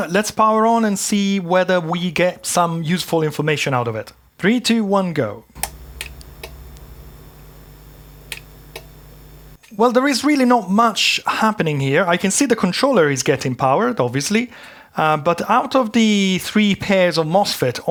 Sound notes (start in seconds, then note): 8.2 clicking